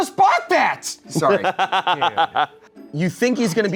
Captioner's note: laughing